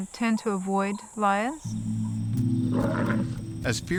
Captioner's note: lion growls